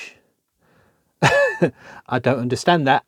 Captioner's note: laughs